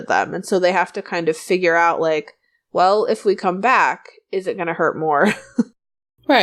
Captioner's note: laughs